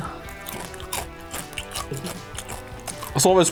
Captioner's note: chews